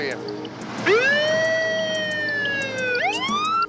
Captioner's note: siren wails